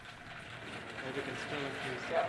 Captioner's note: cart rattling